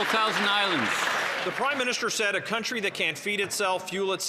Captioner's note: some Applause